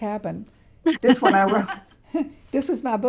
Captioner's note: laughs